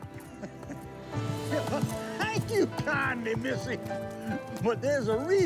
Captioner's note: chuckling